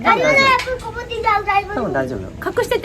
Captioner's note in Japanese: 子供の声